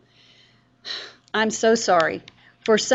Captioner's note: sigh